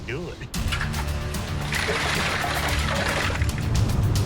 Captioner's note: cans clanging